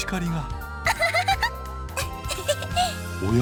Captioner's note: laugh